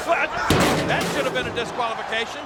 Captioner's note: steps thud